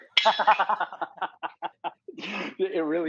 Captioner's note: laughs